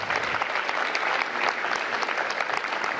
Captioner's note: applause